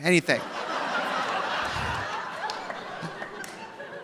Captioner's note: audience laughing